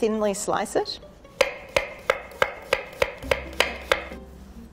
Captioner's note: knife tapping against wooden board